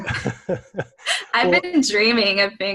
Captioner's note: chuckle